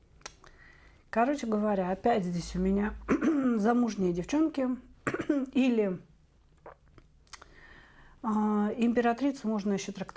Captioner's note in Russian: откашливается